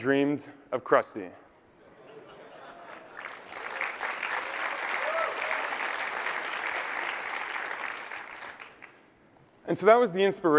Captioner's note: applause